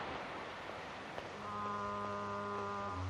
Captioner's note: ship's horn